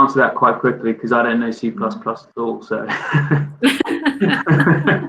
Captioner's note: laughs